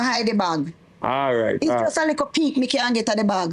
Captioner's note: speaking in foreign language